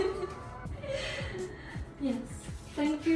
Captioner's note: laughing